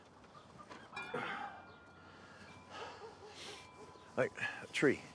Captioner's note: Abe groans and sighs